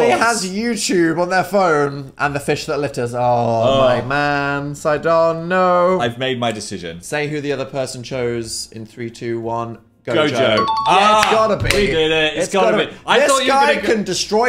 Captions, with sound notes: - That only has YouTube on their phone. And the fish that litters. (groans) Oh my man, Sidon, no. - I've made my decision. - Say who the other person chose in three, two, one. Gojo. - Gojo. (bell dings) - It's gotta be! - We did it, it's gotta be. - It's gotta be. - I thought you were gonna...